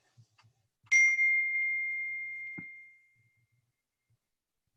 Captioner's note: phone beeps